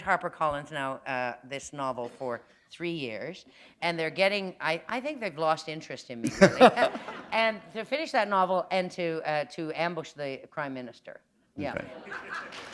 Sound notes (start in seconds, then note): 6.2 laughter